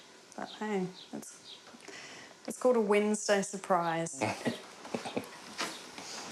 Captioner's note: chuckles